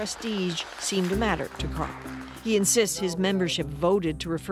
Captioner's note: applause